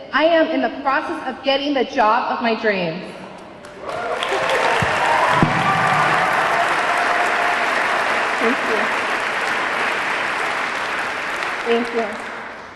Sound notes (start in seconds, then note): 3.6 audience clapping; 3.7 audience cheering